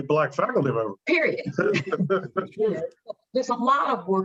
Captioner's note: chuckling